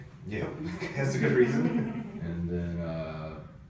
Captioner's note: laughs